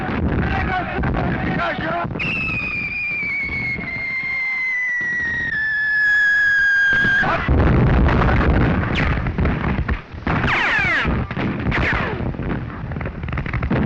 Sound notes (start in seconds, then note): 10.2 firing continues